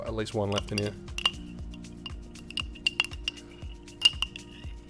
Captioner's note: clinking